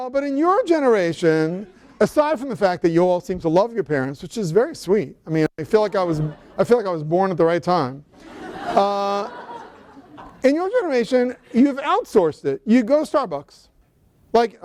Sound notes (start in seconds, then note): 8.1 laughter